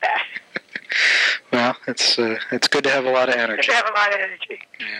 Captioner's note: laughing